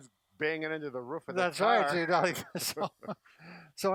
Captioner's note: laughs